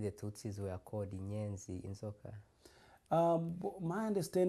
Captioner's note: non-english